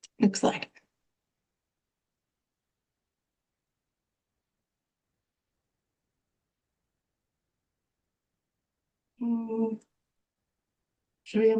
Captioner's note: pause